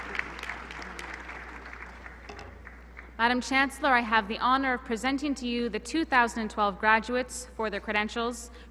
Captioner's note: applause